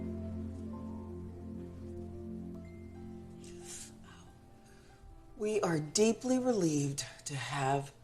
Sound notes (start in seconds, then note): 3.4 inhales sha sharply